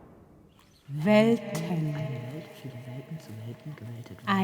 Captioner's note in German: vor sich hin murmelnd